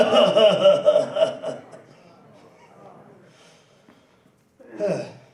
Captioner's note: mocking laughter; audience groaning; sighs